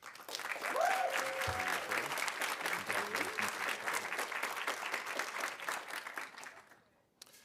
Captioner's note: audience applauding; audience cheering